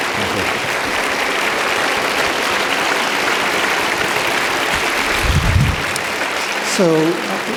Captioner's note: audience applauding